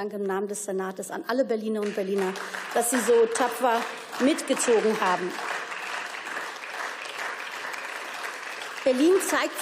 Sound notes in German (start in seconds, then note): 4.4 Beifall